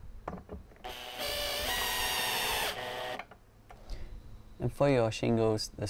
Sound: electric drilling noise

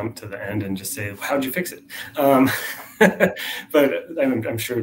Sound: laughs

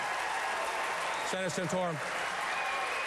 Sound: applause

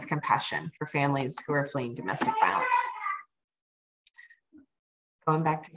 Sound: baby babbling

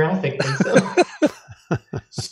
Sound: laughter

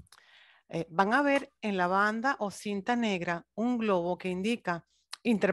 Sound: speaking foreign language

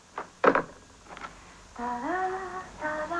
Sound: humming

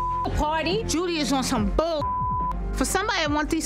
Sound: beep; beep

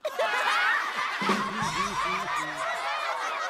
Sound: everyone laughs wildly

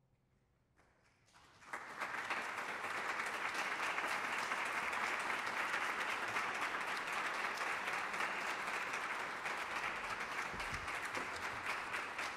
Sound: applause

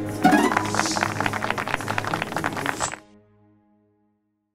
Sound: applause

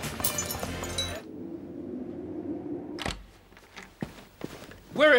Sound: wind whistling

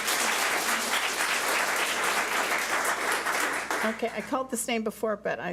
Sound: public applauding

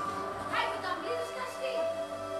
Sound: chattering in Albanian

